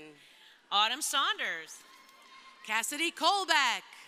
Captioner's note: crowd cheering